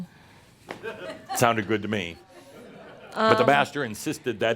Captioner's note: a few chuckles